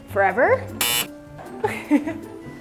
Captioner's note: buzzer tone; laughs